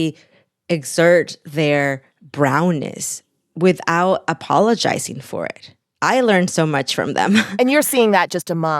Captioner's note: laughter